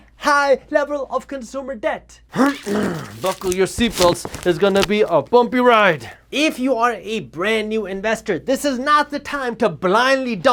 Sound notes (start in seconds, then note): 2.3 grunt